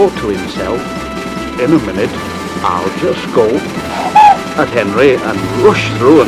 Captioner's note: whistling